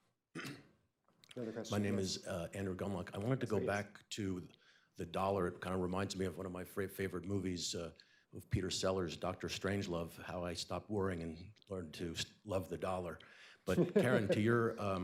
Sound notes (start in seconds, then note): 13.7 laughter